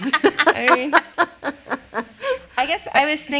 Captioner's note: all laughing